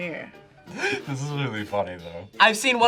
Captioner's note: laughs